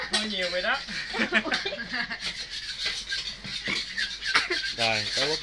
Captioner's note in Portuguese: Tiếng cười